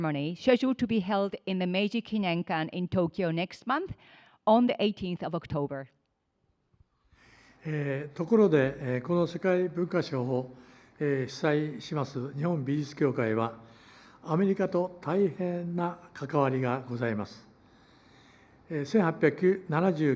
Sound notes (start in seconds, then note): 11.1 foreign language